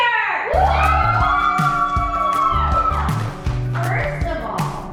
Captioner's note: family cheering